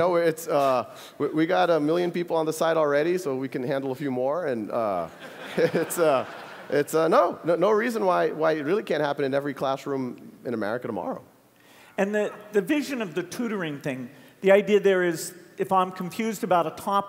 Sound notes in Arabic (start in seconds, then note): 5.2 ضحك